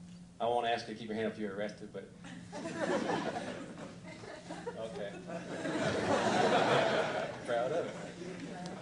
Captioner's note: laughter